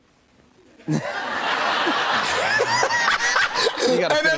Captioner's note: laughter